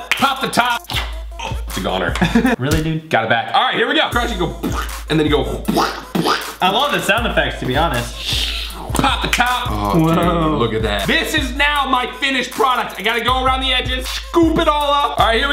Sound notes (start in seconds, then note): 2.1 laughs; 6.1 plopping sound